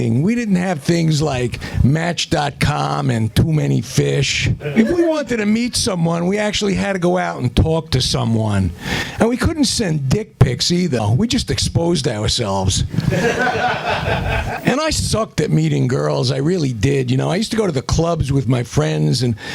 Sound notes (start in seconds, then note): 13.0 laughter